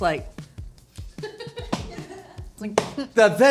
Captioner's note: laughing